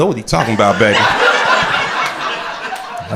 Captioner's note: crowd laughing